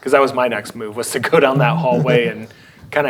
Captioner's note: laughing